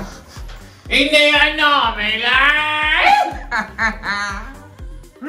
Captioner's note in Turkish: Bülent Ersoy sesiyle